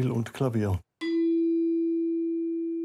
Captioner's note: lower tone